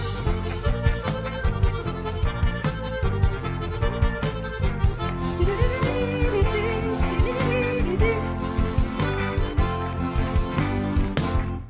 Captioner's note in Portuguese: aplausos